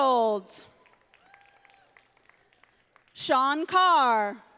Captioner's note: audience applauding